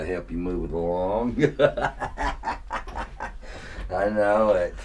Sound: laughing

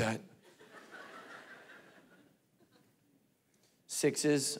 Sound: congregation laughing

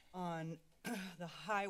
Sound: clears Throat

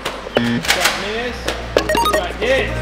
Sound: buzzer; beeping

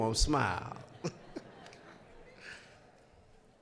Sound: audience laughing

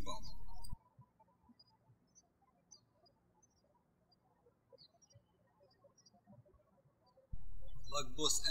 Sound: birds chirping

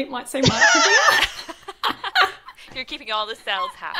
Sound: presenters laugh

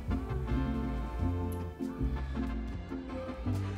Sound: soft moans

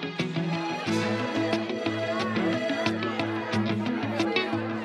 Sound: people chattering

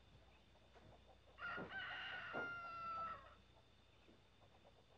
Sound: rooster crowing

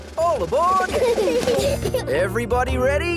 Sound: children giggle

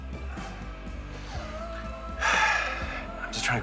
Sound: sighs

